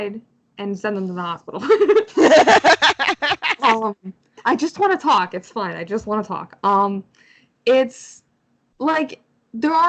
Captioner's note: laughs